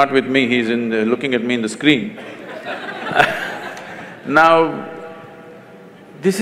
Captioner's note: laughter